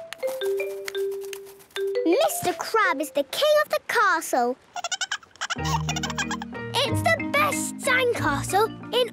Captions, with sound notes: - Mr. Crab is the king of the castle! - (giggling) - It's the best sandcastle